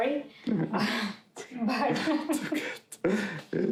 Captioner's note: chuckling